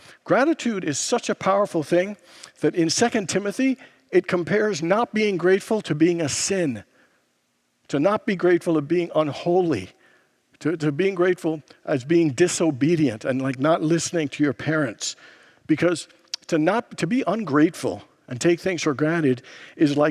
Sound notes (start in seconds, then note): none